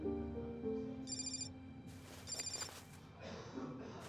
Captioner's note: phone rings